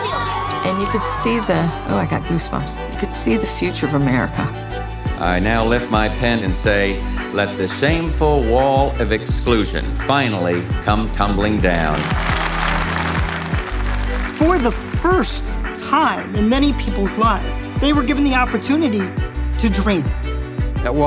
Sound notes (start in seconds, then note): 11.9 applauding